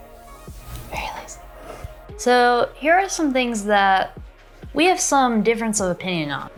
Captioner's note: whispers - very lazy